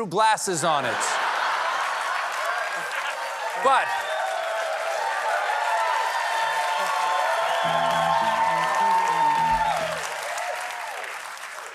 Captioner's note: cheers and applause